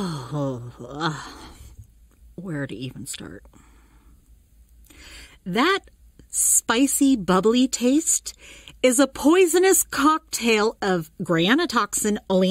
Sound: sighs

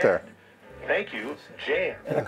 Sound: man On Radio

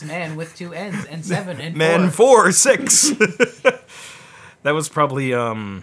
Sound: laughs

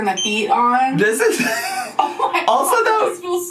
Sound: laughing

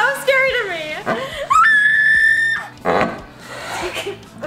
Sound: screaming

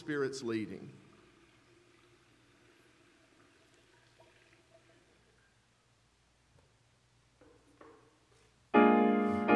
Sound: water is poured into the baptismal font

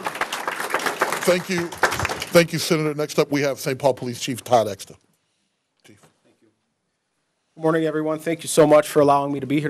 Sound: applause

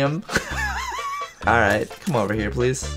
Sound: wheezing laugh

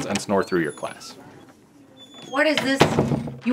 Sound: door opening and closing

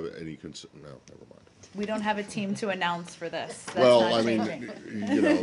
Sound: laughter

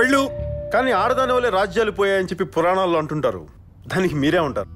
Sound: tv playing

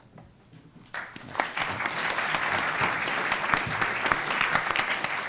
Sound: audience applauding

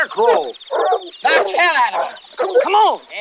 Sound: Otis shouts angrily at dogs

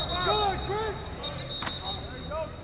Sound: whistle

